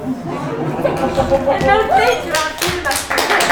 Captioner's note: crowd Murmuring